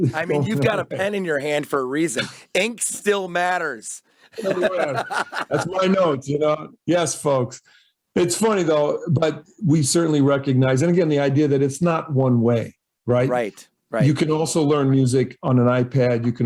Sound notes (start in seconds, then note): 4.3 both laugh